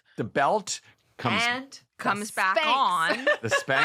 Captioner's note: laughs